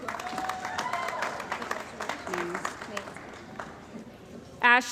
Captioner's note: cheering & Applause